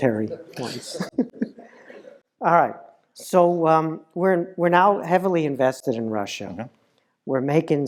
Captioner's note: laugh